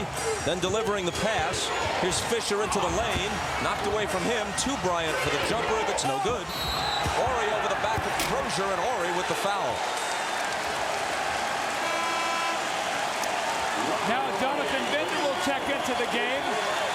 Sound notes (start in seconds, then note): 6.4 whistle blows